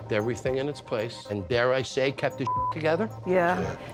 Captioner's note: beep